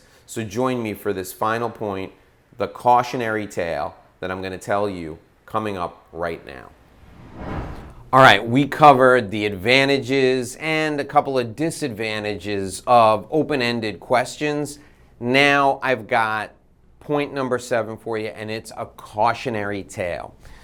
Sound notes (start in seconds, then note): 6.7 whooshing sound